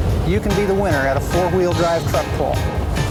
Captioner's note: voiceover